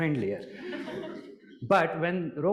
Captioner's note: audience laughing